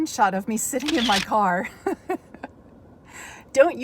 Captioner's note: chuckles